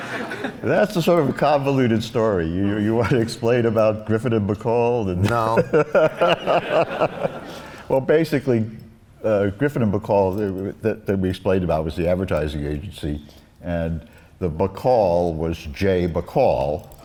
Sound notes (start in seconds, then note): 0.0 laughs; 5.2 laughs